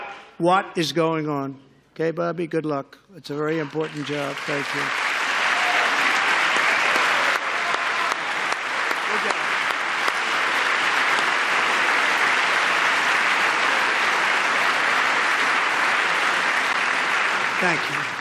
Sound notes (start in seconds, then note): 10.1 applause